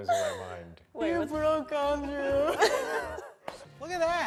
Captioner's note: laughing